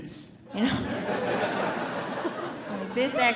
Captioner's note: audience laughing